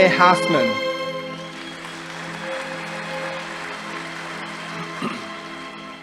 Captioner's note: audience applauding